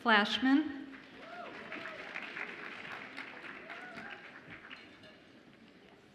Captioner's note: audience applauds and cheers